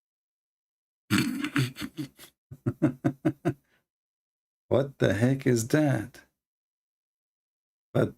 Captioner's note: Ketawa